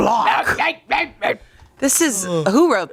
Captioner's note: grumbles